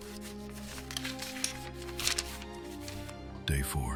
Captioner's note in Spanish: Papel desplegándose